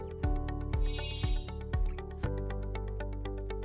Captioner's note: chiming